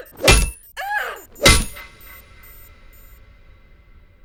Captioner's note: metal clanging